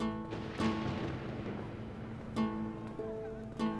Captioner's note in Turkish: Gök gürültüsü efekti